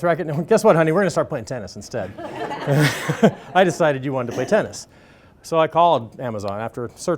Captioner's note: laughter